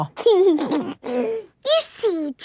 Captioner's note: giggles